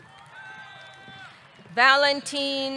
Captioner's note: audience cheering